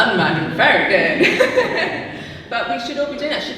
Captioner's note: laughing